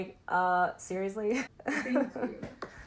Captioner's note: laughing